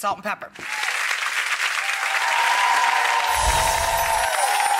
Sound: audience applause

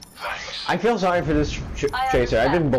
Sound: stammers

